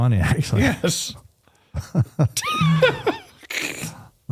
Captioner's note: laughter